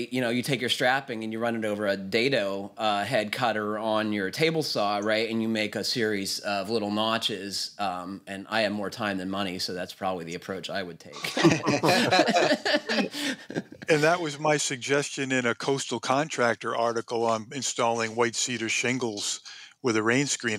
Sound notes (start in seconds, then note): 11.2 laughs